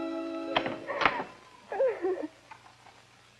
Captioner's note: Helen Crying